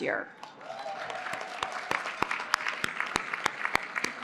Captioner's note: applause